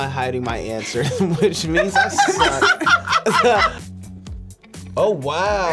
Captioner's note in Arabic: الجميع يضحكون